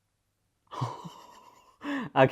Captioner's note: laughs